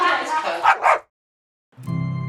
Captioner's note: Biggie barking; soft music